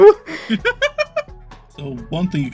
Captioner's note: laughing